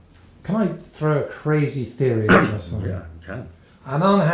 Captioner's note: voiceover